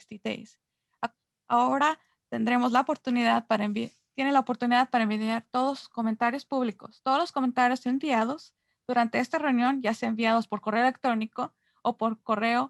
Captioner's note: Spanish